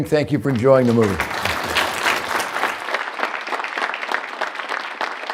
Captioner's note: applause